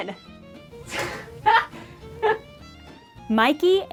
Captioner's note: a startled creak of laughter from off-screen